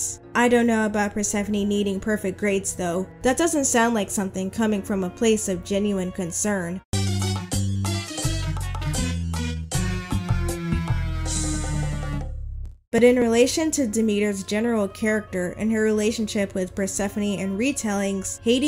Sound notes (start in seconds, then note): 6.8 Mario game over sound effect